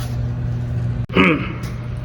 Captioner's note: clearing throat